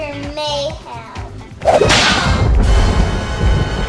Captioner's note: snap